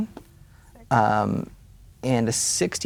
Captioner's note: quietly